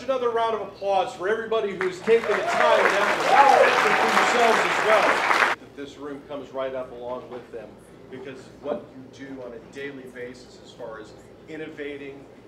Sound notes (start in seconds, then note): 1.8 applause